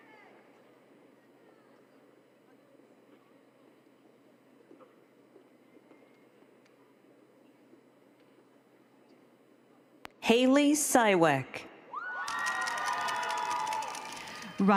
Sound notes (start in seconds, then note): 2.8 applause